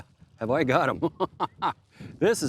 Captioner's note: laughs